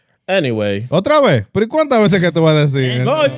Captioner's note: speaking In Foreign Language